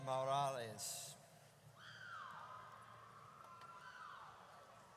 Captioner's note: audience cheers